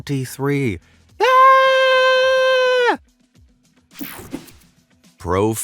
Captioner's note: narrator screams